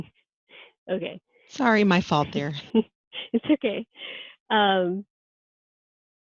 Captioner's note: laughing